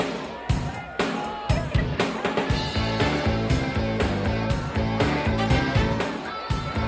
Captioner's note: group clamoring; upbeat music